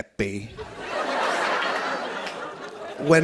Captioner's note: laughter